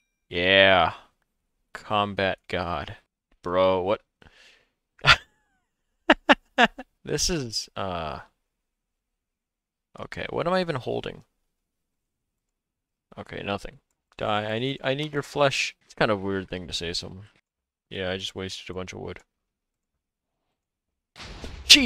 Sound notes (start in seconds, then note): 6.1 laughs